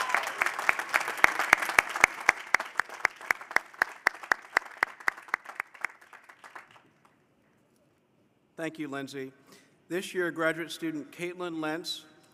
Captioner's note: cheers and applause